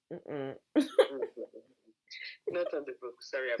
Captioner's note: laughing